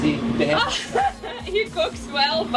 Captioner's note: laughter